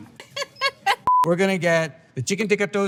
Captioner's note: friend laughs